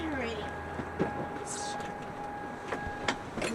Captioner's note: car beeping